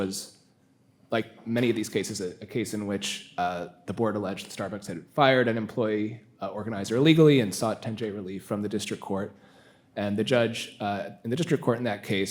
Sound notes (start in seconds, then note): none